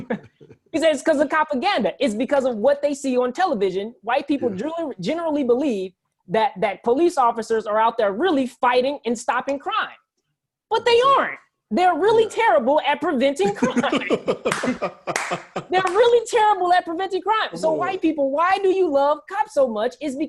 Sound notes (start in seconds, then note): 13.4 laughs